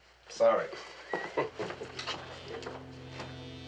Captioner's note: chuckles